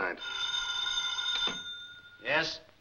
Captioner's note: phone rings